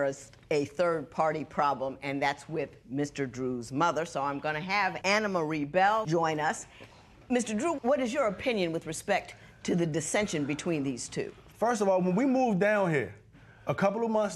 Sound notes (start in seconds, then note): none